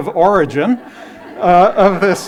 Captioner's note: laughter